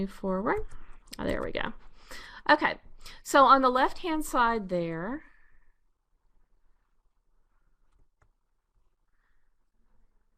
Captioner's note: pause